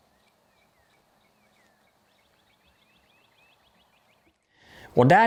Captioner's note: birds chirping